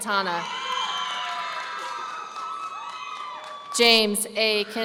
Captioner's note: audience cheering